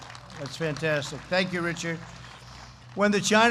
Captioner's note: applause